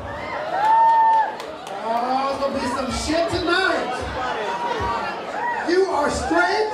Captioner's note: cheering and clapping